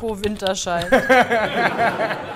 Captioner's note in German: Lachen